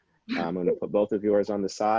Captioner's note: chuckles